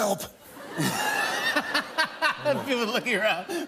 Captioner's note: laughter